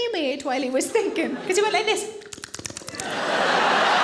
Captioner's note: smacking lips; audience laughing